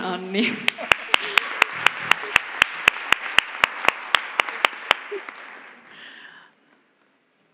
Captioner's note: applause